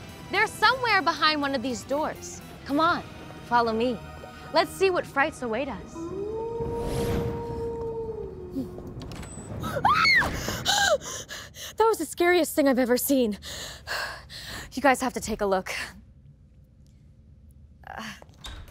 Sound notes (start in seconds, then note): 5.9 animal howls; 9.7 gasps, screams, breathing heavily